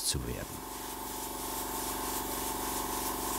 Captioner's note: compressor whirring